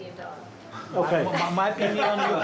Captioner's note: laughs